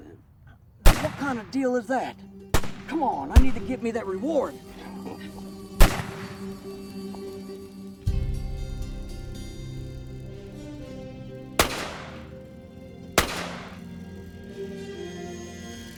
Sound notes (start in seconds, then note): 5.8 guns firing; 5.8 soft orchestral music